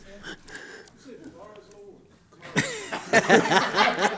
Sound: laughter

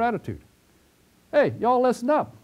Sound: pause

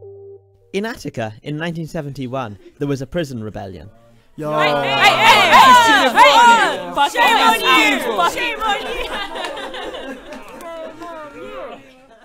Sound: lots of shouting

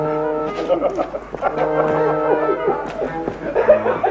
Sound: laughing heartily

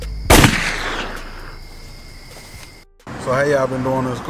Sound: gun firing

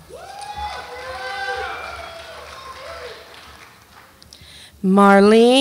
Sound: audience applauds and cheers

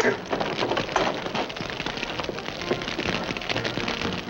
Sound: fire crackling

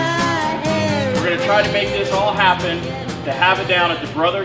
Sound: voiceover

